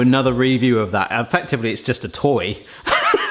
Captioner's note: laughs